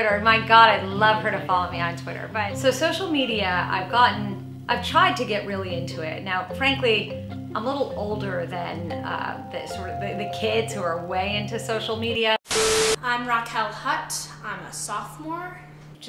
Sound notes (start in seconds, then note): 12.4 static hums; 12.5 tone beeps